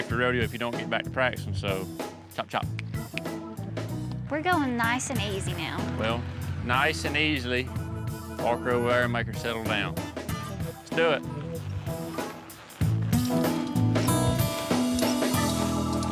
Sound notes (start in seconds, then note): 3.1 snaps fingers